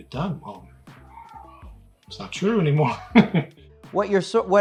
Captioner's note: laughs